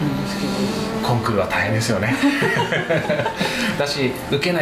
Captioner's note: laughs